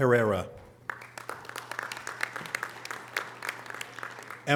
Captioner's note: audience applause